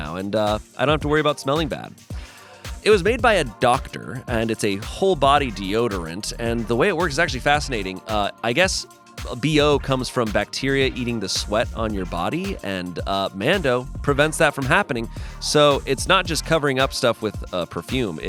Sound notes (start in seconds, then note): none